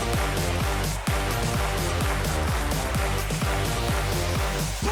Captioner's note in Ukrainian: оплески